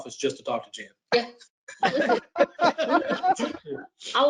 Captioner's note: laughs